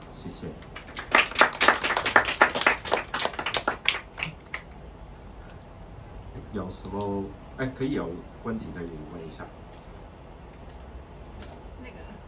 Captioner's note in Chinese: 掌聲